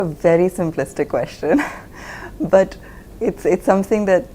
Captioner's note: laughs